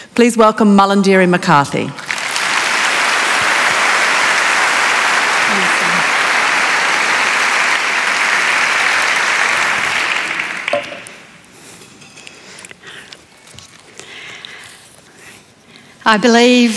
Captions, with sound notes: Please welcome Malarndirri McCarthy. [ Applause ]